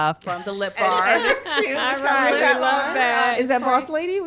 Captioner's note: overlapping chatter and laughter